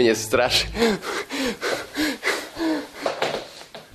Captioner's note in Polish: intensive breathing noises